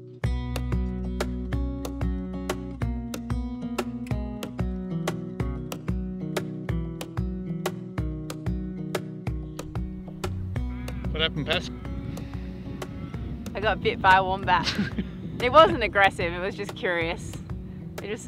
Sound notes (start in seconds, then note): 14.6 laughs